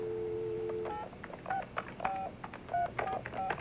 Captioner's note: dialing